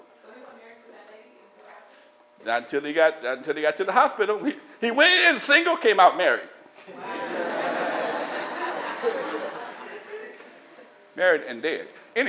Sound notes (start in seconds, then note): 6.8 laughter